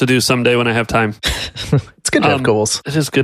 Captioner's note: laughs